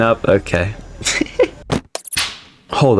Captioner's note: laughs to myself